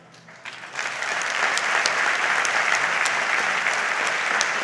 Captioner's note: audience applauds